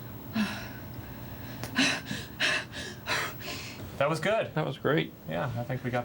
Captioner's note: panting